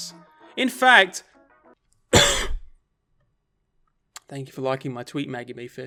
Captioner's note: coughs